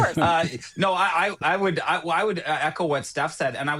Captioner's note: laughter